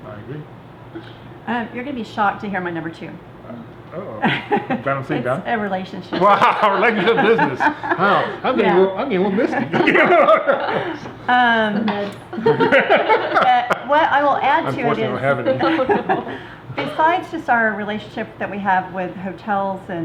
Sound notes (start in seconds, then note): 6.1 laughs; 9.6 everyone laughs; 12.6 laughing